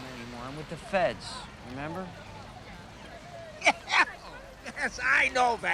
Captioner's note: laughs